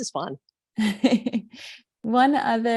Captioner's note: chuckles